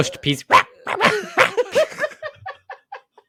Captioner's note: barking sounds